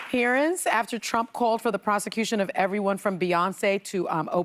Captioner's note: applause